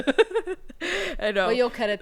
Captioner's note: laughing